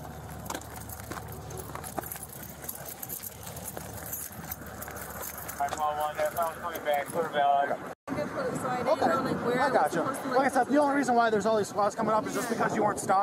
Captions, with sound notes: (Radio chatter) - So I didn't go like - Okay I gotcha Like I said, the only reason why there's all these spots coming up is just because you weren't stopping